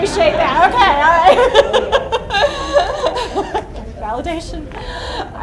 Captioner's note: laughs